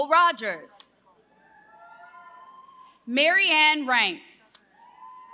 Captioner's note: applause